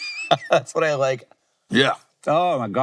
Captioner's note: laughs